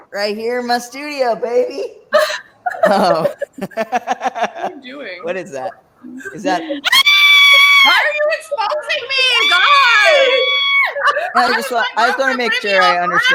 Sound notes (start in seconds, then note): 2.1 laughs; 6.6 shrieks